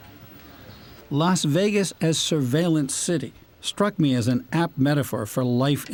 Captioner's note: voice-over